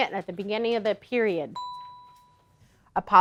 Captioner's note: ding